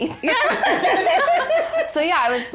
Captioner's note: all laugh